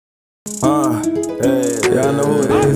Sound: big Voice

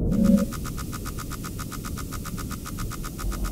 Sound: beeping

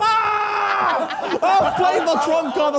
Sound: Harry screaming; all laughing; both laughing

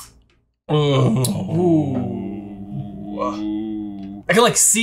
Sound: both groaning

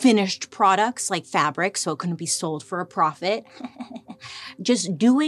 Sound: chuckles

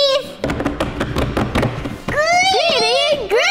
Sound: table thumping

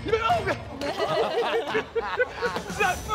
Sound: laughing

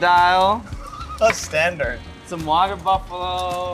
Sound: laugh

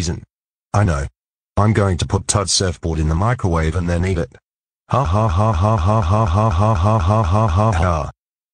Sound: evil laughter

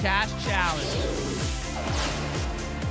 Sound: whoosh

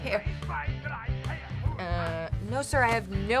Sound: Mr. Krauss chattering angrily

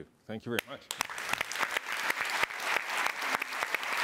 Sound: applause

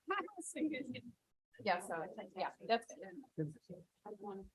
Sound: group chattering

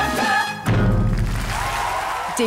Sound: applause

